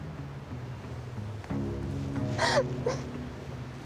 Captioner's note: sobbing